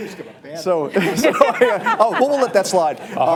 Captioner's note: laughter